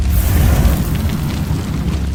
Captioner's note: fireball whoosh